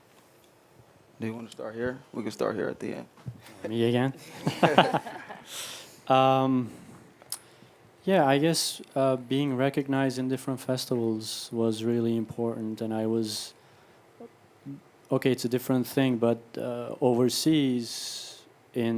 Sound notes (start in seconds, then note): 4.2 laughing